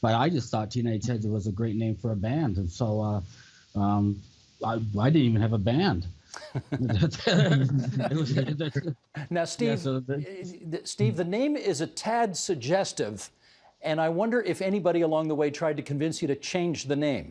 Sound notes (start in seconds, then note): 6.3 laughter